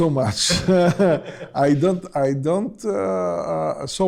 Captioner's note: laughs